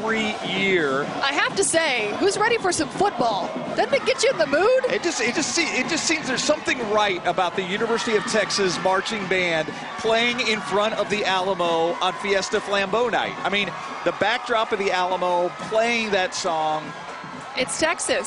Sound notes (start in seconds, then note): 5.6 cheering